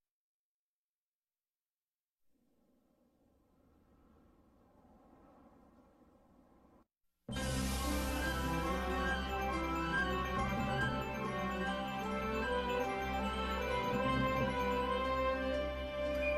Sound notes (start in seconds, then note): 2.2 silence; 7.3 majestic orchestral music resuming